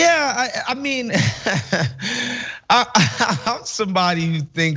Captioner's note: laugh